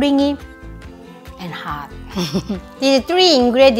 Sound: chuckles

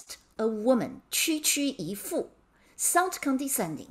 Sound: speaking in Mandarin

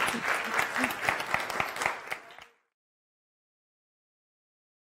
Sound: audience applauds

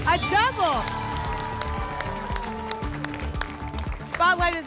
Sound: applause and cheering

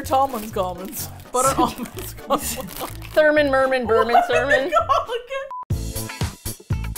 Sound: laughs; laughing; funky music

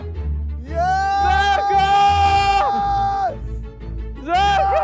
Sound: screaming

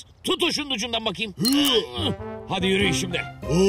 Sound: stuggling sounds

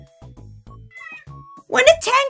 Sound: meow

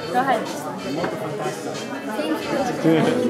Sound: speaks Italian

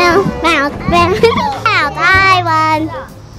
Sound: laughs

